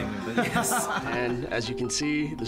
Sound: laughing

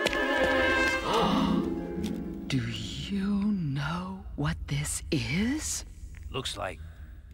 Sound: gasps

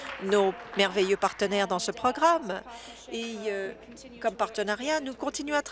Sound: applause

